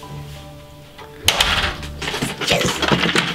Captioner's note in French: porte qui se ferme